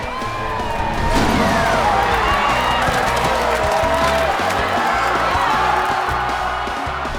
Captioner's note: lively music; students cheering